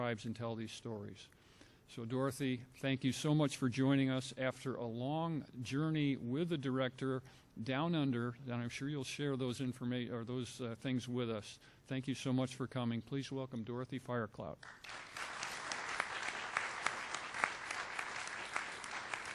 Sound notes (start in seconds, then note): 14.6 applause